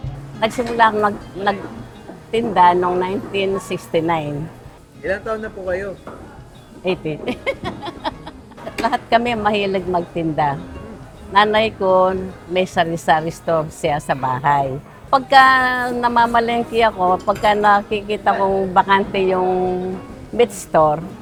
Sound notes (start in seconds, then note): 7.2 laughs